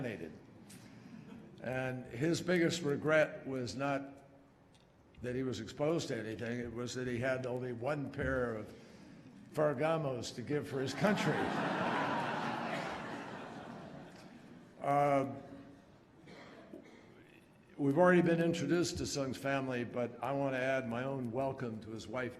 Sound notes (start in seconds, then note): 13.6 laughter